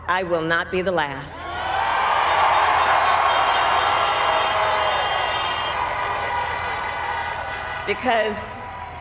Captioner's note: cheers